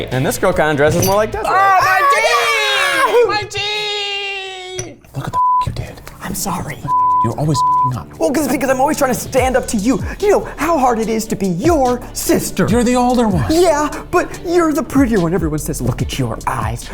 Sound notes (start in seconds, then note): 1.3 yells